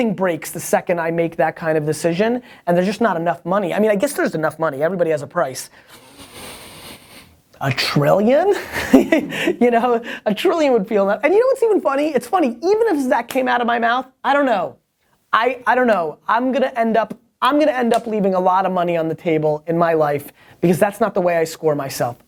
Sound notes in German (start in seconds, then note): 5.8 Inhaliert tief; 8.7 Lacht